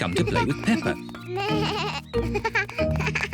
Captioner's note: bleating